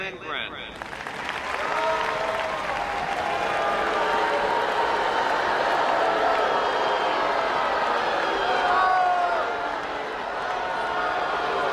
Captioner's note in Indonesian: tepuk tangan dan cemooh